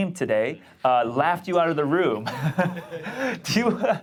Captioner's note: laughs